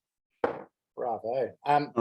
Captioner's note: jar thuds